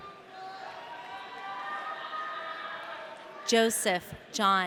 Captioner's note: audience cheering